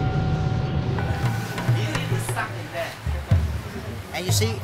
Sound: speaking in foreign language

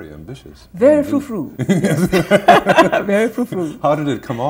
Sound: laughter

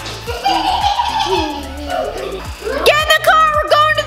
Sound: giggling

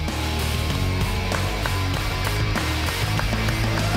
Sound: crowd clapping

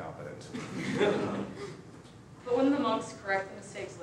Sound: students laughing

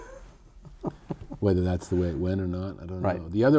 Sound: laughter

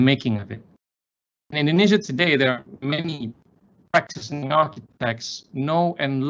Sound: audio glitching

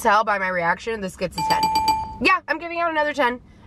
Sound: dings

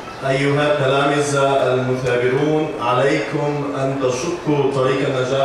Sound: speaking in foreign language

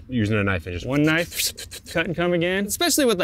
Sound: mimicking cutting noises

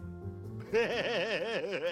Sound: laughs

